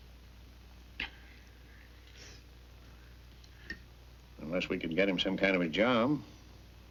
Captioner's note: sniffling